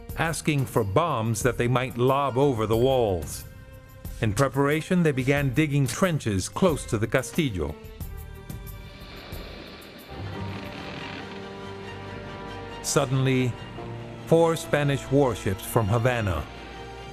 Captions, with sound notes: asking for bombs that they might lob over the walls. In preparation, they began digging trenches close to the Castillo. [ Waves crashing ] [ Wood creaking ] Suddenly, four Spanish warships from Havana